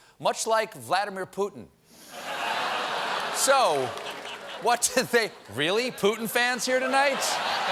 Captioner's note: laughter